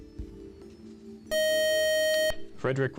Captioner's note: time out buzzer